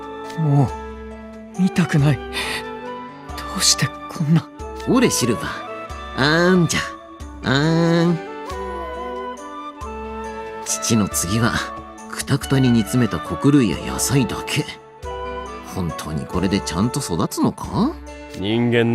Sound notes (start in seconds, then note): 8.4 baby noises